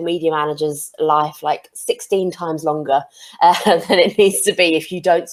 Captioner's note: chuckles